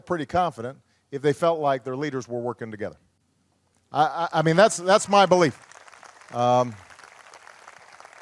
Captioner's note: applause